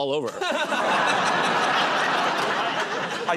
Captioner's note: laughter